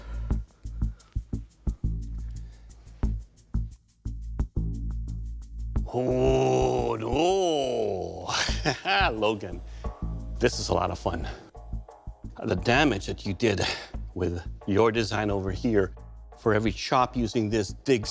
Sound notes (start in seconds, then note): 7.7 laughs